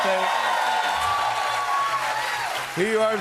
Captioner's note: cheers and applause